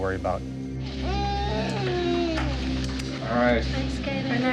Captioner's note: cries